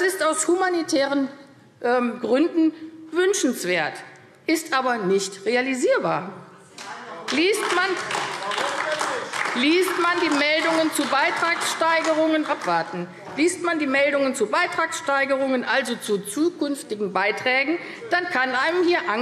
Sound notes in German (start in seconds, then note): 7.2 Beifall AfD - Zuruf DIE LINKE: Warum denn nicht?